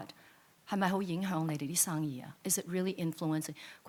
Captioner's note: speaks in foreign language